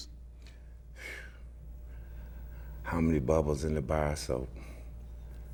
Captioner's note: sigh